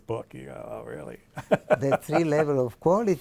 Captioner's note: laughs